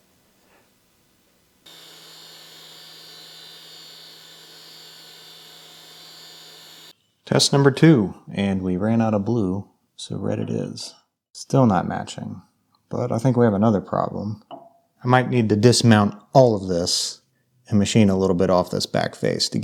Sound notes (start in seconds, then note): 1.6 machinery whirring